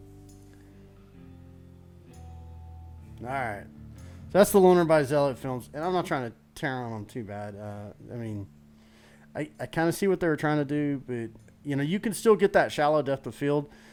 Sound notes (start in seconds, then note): none